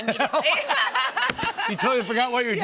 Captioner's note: laughter